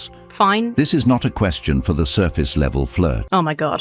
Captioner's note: AI Voice